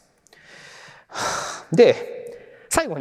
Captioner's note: sighs